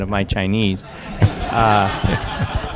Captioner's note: laughter